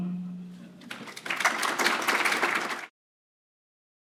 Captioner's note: applause